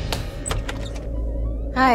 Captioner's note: Door opens